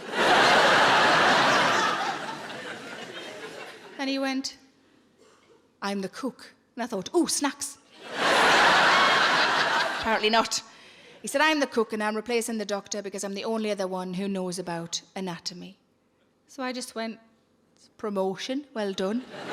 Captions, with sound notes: And he went, "I'm the cook," and I thought, ooh, snacks. (audience laughing) Apparently not. He said, "I'm the cook, and I'm replacing the doctor, because I'm the only other one who knows about anatomy." So I just went, "It's a promotion, well done."